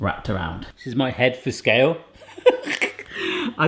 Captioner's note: laughs